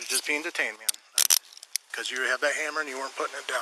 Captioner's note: handcuffs click